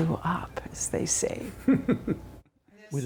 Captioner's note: laughter